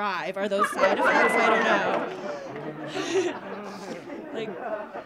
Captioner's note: laughing; audience laughing